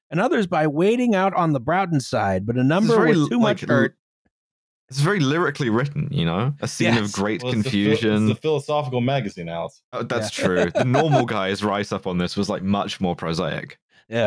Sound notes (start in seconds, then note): 10.0 laughs